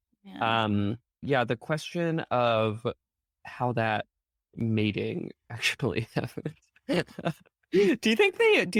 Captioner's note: chuckling